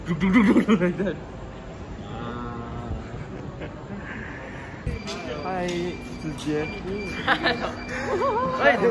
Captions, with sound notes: Ahh (chuckles) Hi Zi Jie! Haha hello!